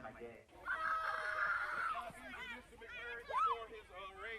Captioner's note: kids yelling; mutters